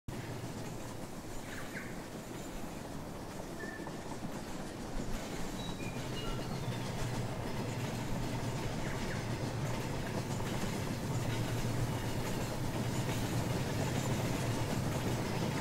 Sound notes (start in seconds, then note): 0.2 locomotive Noises